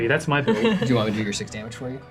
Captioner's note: all laugh